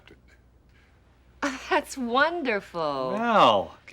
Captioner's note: chuckles